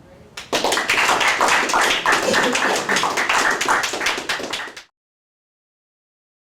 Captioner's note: applause